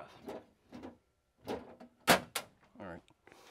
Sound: breaker box closing

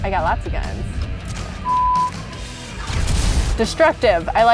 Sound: explosions

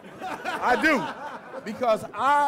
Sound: laughter

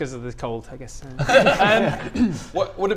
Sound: relieved laughter

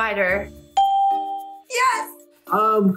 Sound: bell rings

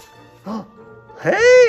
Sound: gasping

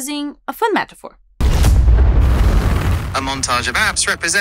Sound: rocket blast

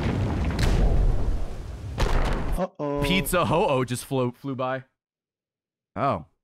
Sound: laughs

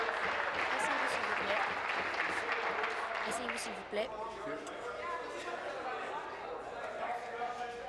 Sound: applause

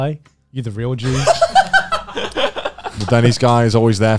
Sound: everyone laughs

